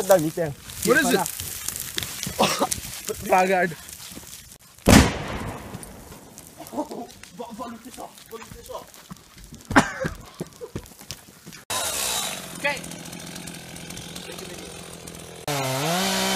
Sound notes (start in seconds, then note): 4.8 explosion; 11.6 chainsaw